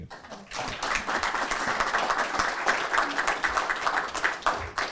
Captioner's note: applause